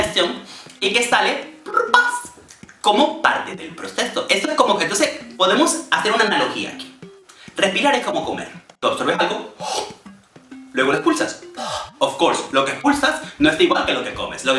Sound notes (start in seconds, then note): 10.1 gobbles; 11.5 exhales